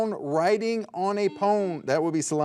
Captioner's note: buzzer dings